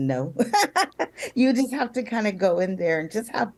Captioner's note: giggling